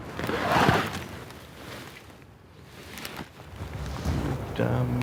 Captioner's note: wheelchair scraping